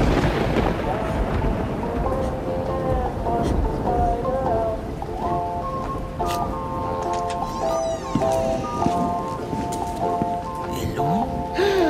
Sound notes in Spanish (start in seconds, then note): 0.0 relámpagos; 6.9 se abre puerta